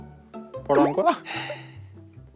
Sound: mispronunciation

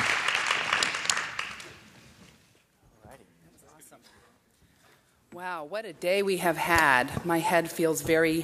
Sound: applause

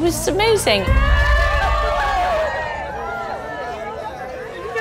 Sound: cheering

